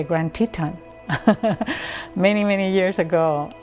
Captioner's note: laughs